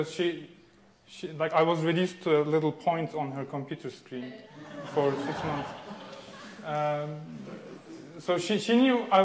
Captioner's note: audience laughing